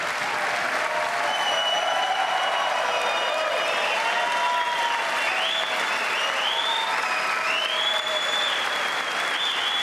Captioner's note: applause; cheers and applause